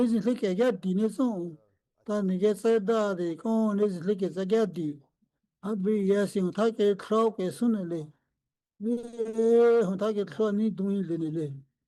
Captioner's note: speaking Indigenous language